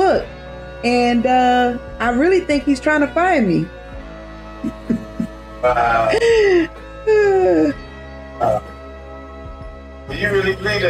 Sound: laughs

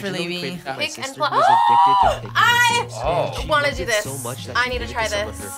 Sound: gasps

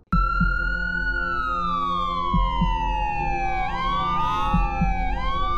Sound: ambulance Sirens

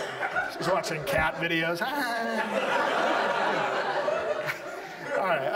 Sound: audience laughs; fake laughs; audience laughs

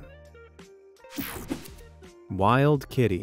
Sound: graphics whooshing

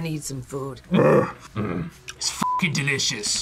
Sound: grunts

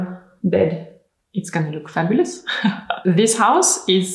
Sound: laughs

